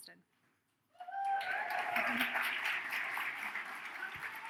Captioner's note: audience cheers